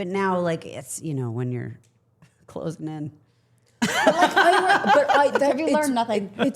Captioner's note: laughing